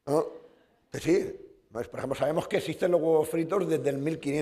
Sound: speaking spanish

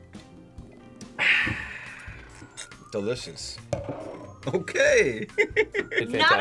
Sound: laughs

